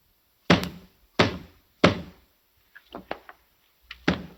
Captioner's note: knocking on door